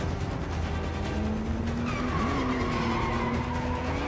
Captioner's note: tires screech